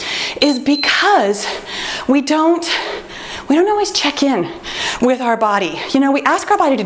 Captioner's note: timer beeps